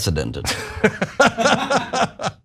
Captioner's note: laugh